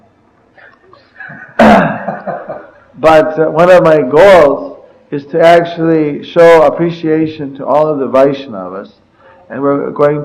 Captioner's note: laughter